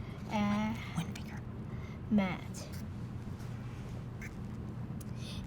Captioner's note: whispering